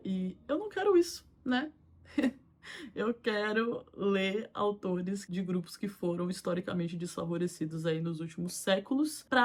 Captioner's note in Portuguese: risadas